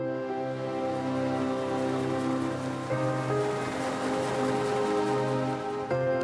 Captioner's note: warm pensive music; printing press whirring